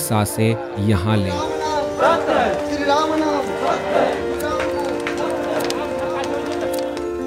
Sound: chanting

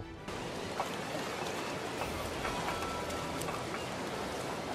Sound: ocean noises?

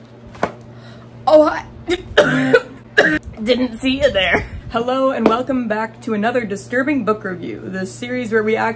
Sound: choking & coughing

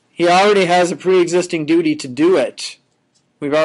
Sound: none

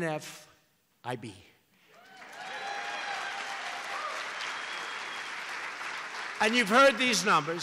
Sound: applause

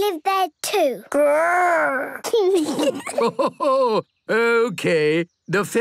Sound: kids giggling; Grandpa laughing

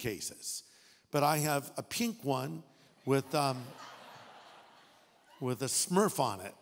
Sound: audience laughing

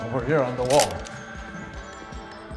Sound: click

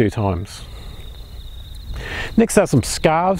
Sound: birds chirping

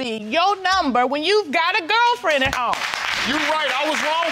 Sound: audience applauding

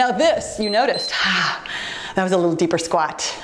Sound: timer beeps

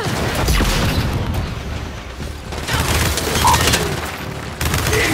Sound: gunfire

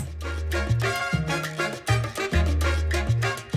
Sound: none

